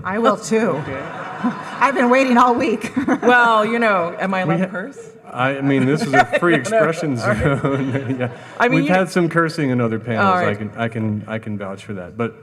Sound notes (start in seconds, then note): 0.5 audience laughing; 0.6 laughs; 5.5 laughs